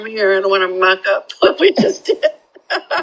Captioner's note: laughter